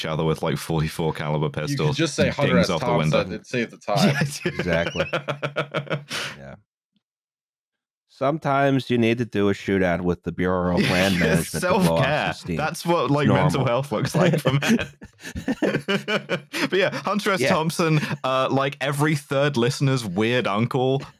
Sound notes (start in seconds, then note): 3.8 laughs; 13.3 laughter